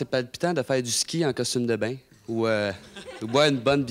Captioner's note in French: rires